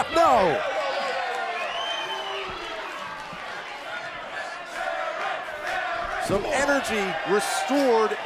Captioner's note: crowd cheering